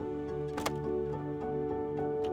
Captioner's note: filter clicks